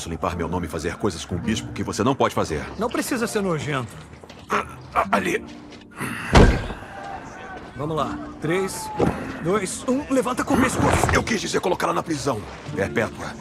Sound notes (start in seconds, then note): 4.2 both grunting